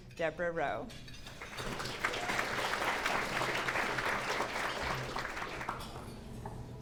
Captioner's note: clapping